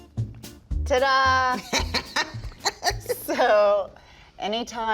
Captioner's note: laughs